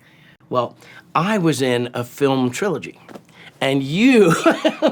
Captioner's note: laughs